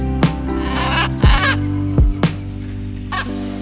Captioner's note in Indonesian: Suara Burung